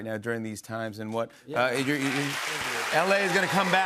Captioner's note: applause